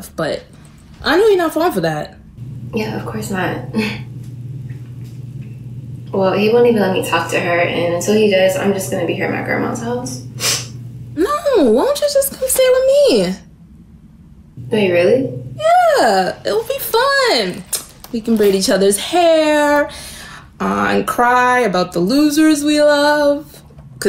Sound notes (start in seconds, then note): 10.4 Ja'Nelle sniffs